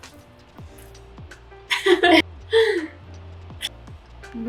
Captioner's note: adorable snowpeople and more adorable noises